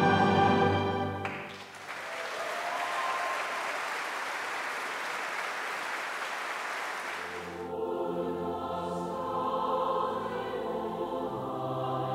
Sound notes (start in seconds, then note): 1.2 audience applauding; 1.2 audience cheering; 7.2 singing in German